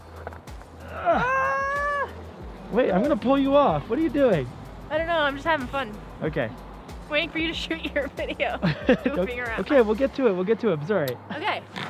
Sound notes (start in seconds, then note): 8.6 laughs